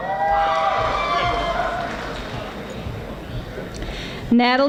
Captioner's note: audience applauding